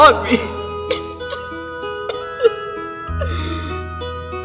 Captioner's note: crying